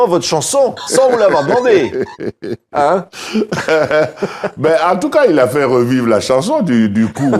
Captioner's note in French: rires